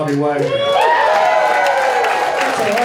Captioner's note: crowd cheering